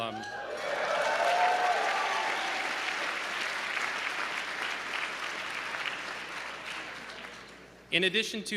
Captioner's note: applause